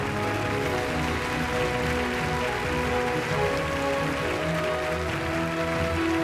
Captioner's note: audience applauds; wondrous music